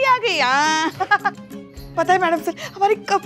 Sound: chuckling

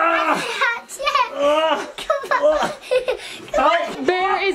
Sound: groaning

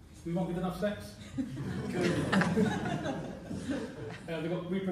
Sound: laughter

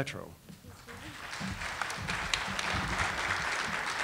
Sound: audience applauding

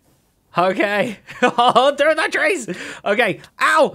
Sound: laughs

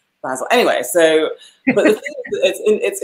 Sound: laughs

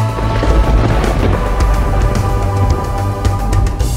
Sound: thunder cracking

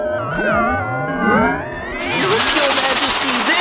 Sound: swirly noises

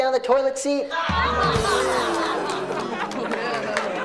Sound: all laughs

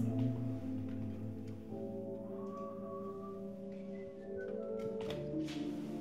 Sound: whistling

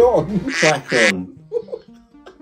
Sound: duck quacking; both laughing

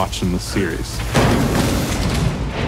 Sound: loud thud

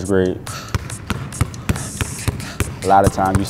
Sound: dribbling sounds

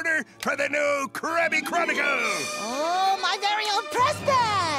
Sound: none

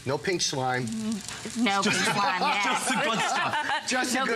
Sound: laughter

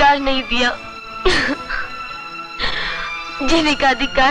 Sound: crying

